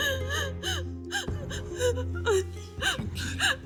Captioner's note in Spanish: Sollozos